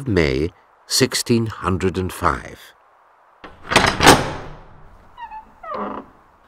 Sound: door creaks open

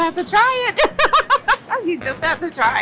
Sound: laughs

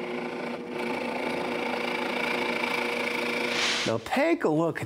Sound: drill buzzing

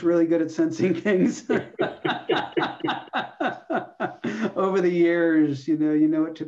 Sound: laughter

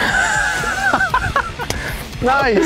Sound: both laughing

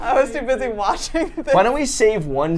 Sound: laughs

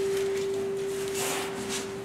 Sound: tennis shoes scuffs

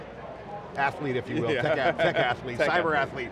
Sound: chuckles

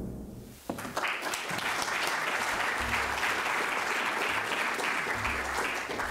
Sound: applause

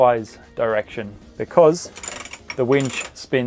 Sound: winch rattling

